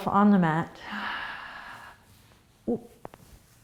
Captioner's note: exhaling